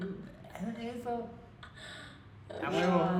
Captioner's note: in spanish